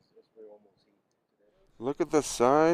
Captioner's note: speaks faintly